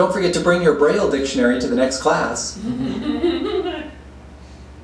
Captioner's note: laughter